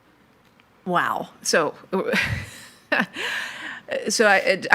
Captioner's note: chuckles